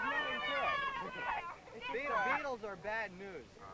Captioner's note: loud cheering